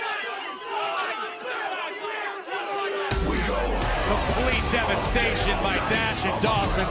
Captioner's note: cheers and applause